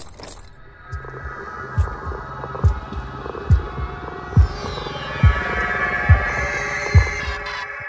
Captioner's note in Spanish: Palpitaciones intensas